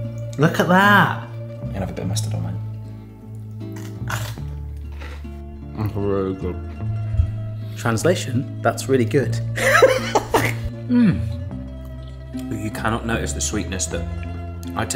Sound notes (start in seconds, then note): 3.6 cone crunches; 9.6 laughs